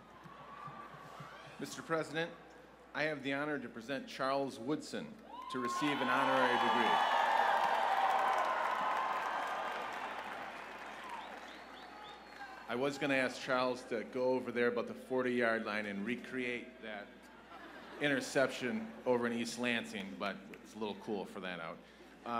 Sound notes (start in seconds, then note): 7.0 cheers and applause